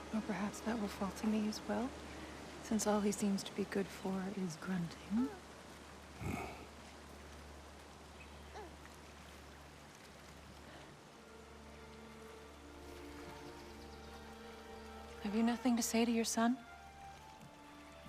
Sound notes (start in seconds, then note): 6.2 grunt